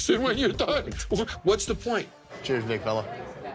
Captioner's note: laughs